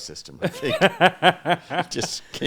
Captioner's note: laughing